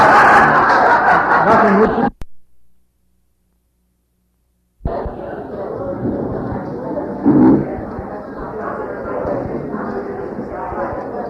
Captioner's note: background noise, talking, shuffling